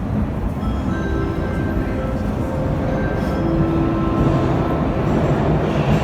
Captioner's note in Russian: прибытие поезда на станцию; сигнал о прибытии поезда; прибытие другого поезда на станцию